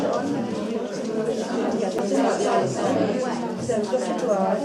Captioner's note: chattering